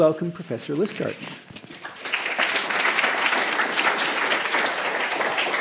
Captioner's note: applause